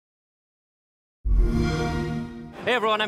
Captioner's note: xbox sound